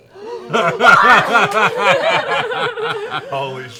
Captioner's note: gasps